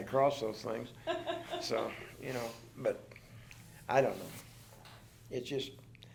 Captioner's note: chuckles